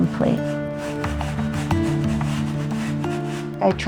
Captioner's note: paint brush strokes